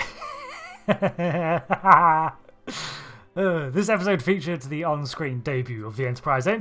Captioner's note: laughter